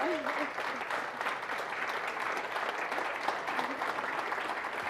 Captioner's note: audience applauding